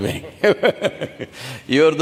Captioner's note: laughs